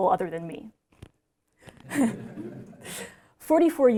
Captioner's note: laughter